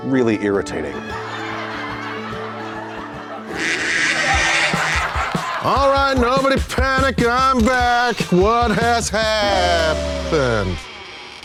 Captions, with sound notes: Really irritating. (audience laughing) (bird squawking) All right, nobody panic! I'm back! What has happened?